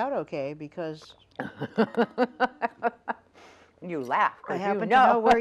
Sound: laughs

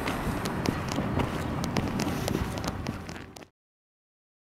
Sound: footsteps

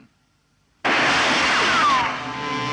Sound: gunshot

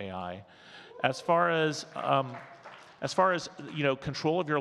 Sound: audience cheers and claps

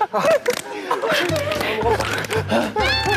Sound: breathing hard

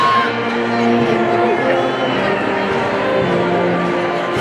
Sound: people chattering indistinctly

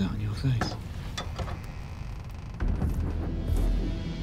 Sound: door creaks open

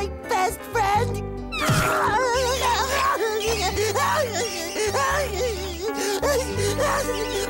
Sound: crying

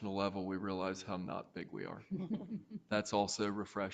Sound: chuckling

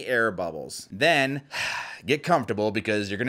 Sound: sighs

